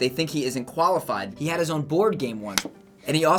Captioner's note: smacks forehead